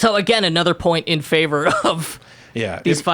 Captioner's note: laughs